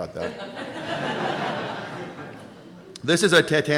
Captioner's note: laughing